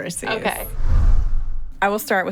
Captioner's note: air whooshes